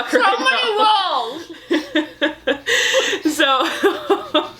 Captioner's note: laughs